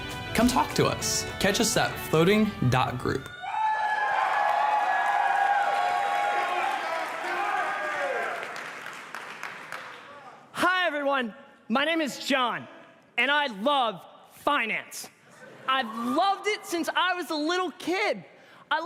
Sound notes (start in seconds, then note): 3.3 cheers and applause